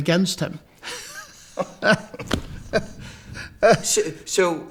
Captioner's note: both laughing